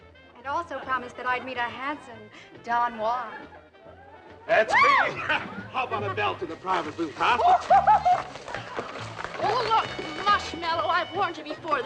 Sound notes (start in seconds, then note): 5.0 yelps; 7.7 laughing